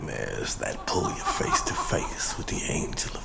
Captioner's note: laughing